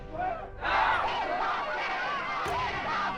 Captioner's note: crowd chanting, shouting